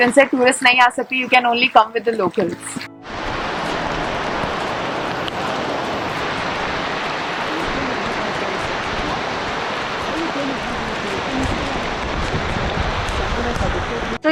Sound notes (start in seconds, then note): 3.0 sound of the rain